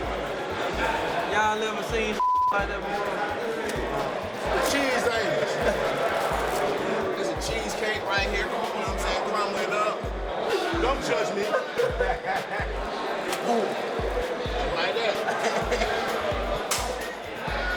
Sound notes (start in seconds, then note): 0.0 laughs; 12.4 inmates laughing